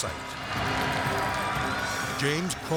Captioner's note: crowd cheers